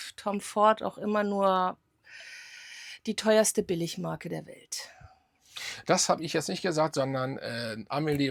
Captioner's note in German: japst